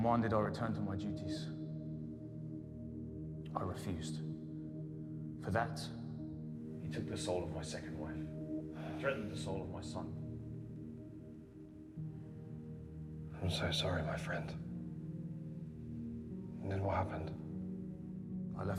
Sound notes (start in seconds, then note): 8.7 Igor sighing; 12.2 soft haunting music